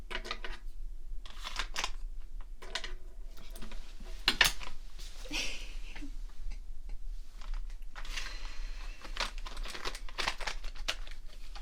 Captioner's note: laughing